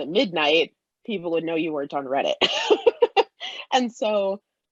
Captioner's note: laughs